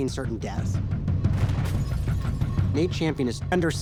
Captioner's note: gunfire; glass shatters